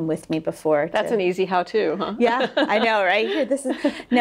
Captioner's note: laughing